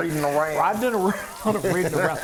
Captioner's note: laughing